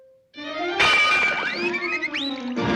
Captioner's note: dramatic music; glass breaks; feet whooshing